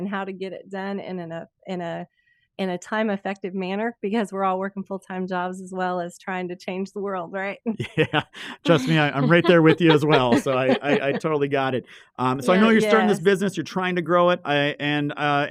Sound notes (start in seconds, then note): 7.8 laughs; 11.7 women laughing